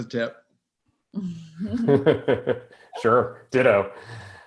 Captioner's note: laughs